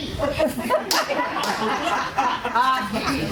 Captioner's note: laughter